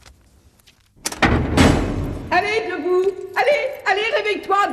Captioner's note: door rattling